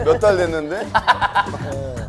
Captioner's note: laughing